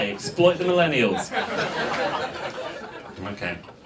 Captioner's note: audience laughs